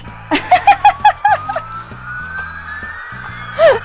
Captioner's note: laughs